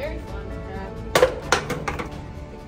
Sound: water bottles fall on the ground

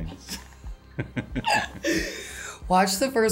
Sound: both laugh

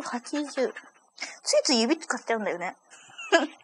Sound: laughs

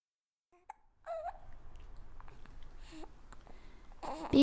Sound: baby noises

